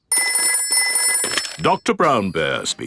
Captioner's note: telephone ringing; dialing